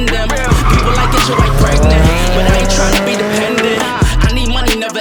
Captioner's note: car drifting noise with music playing in the background